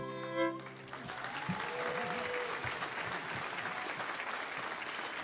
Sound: audience cheering

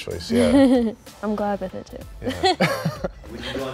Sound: laughs

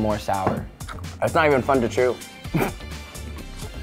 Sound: chewing; laughs; pop music

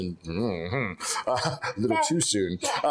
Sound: Lord Byron makes nervous sound

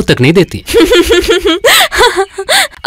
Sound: laughs

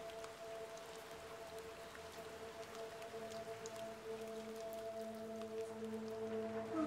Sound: rain tapping; soft ethereal music

